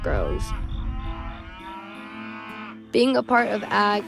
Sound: cows mooing

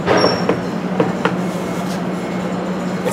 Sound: knocks

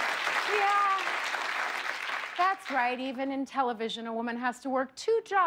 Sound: cheers and applause

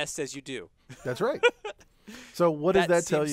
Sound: laugh

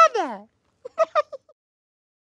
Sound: giggling

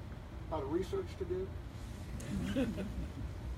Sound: laughter

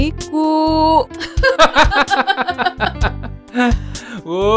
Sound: laughs

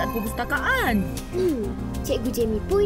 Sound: beeping continues

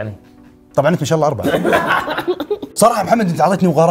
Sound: laughter

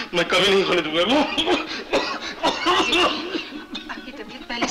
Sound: coughs

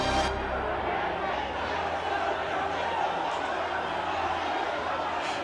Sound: crowd chattering

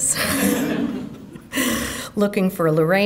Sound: audience laughing

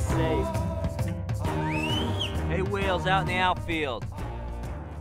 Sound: whistling

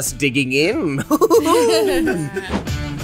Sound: laughs; upbeat music

